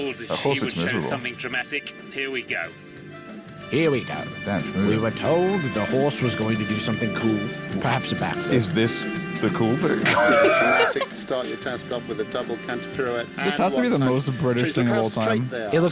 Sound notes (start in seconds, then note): 10.0 laughs